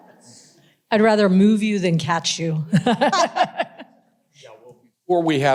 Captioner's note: laughs